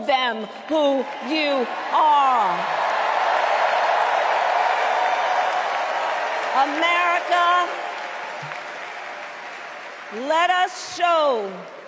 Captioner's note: cheers and applause